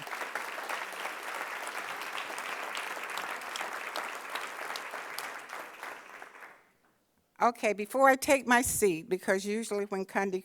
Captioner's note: applause